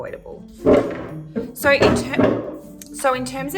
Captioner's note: scraping chair